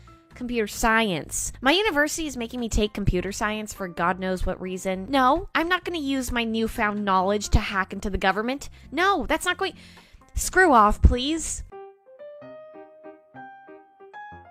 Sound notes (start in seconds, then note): 9.8 inhales; 11.5 chill music plays faintly